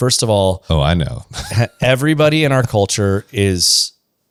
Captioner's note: laughs